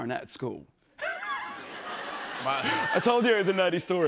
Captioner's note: laughter